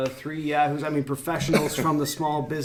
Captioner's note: men laugh